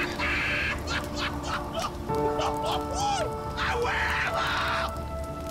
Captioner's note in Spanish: Carcajadas